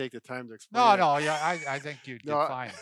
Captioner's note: laughing